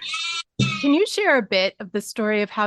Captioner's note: sheep bleating in background